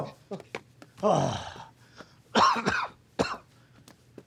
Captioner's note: coughing